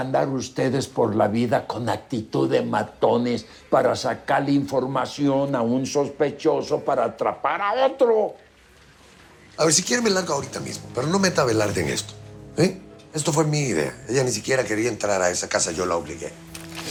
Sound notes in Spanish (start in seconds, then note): none